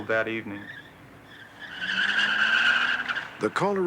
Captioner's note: tires squealing